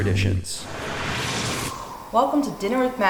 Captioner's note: end Swipe Sound